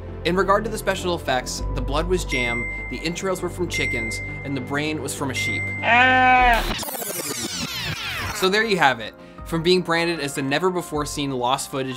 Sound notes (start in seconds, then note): 5.8 sheep bleating; 6.6 film rewinding